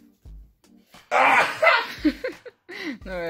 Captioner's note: impressive sneeze